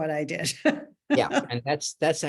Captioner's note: laughs